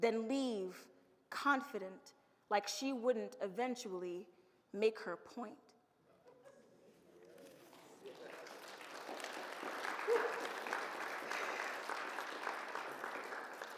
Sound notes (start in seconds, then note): 6.7 audience laughs; 7.5 audience applauds and cheers